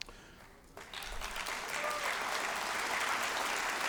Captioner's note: applause